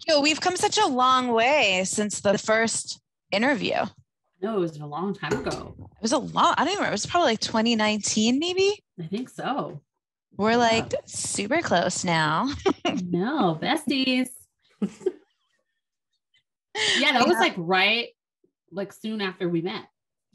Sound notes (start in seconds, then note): 12.5 chuckles; 15.4 chuckles